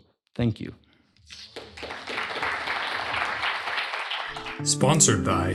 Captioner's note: applause